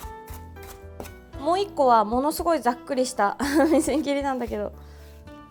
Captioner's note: chopping